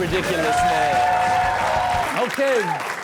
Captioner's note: audience cheering and clapping